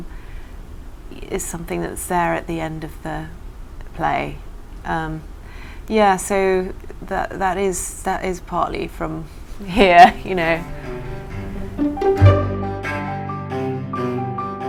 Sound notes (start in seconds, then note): 9.7 laughs; 12.2 upbeat string music